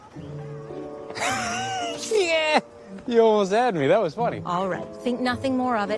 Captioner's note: laughs